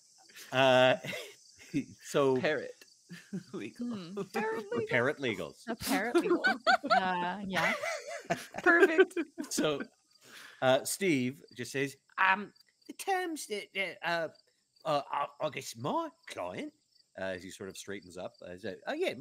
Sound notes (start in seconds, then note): 0.4 laughing; 7.6 all laughing